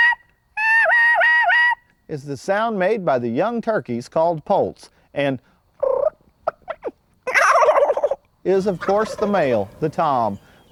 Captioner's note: purr, gobble